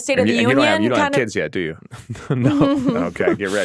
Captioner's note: chuckles